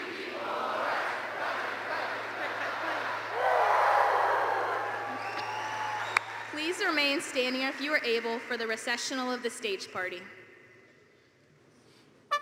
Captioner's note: applause